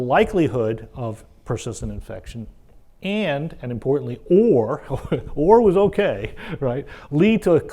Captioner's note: laugh